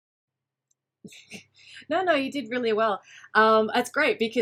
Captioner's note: laughs